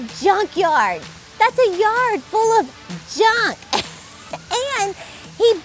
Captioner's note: chuckling